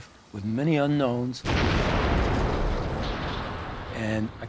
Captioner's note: explosion